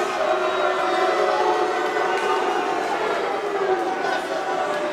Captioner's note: crowd booing